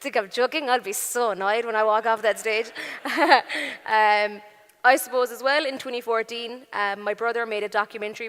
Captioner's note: laughing